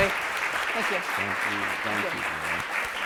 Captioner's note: applause